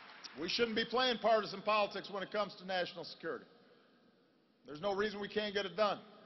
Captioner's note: applause